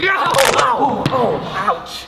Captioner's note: fleshy crunch